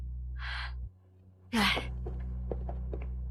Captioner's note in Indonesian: Menghela napas